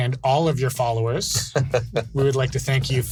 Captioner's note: laughs